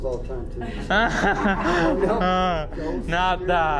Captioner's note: group laughs